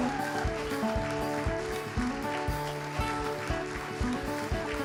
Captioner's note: applause